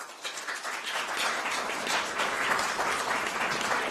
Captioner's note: applause